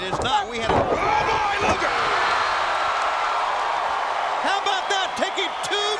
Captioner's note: thumping floor; crowd screaming